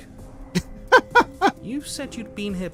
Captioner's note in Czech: smích